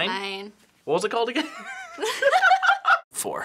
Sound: both laugh

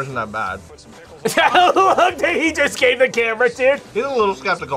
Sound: laughs

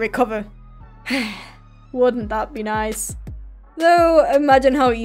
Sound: sigh

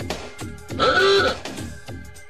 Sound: car horn

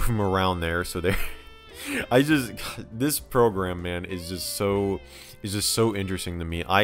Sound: chuckling

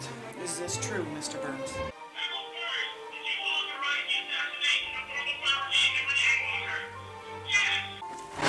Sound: Harold on recording

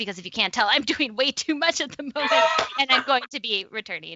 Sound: laughs

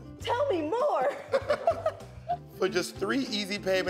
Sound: both laugh

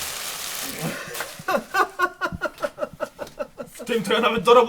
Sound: laughter

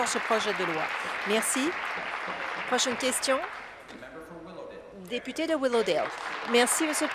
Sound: applause

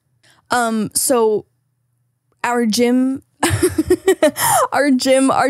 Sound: laughing

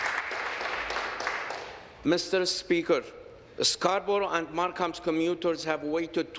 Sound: applause

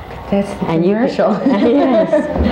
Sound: laughs

